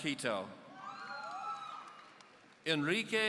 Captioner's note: audience cheering